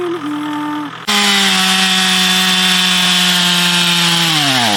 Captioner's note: chainsaw roars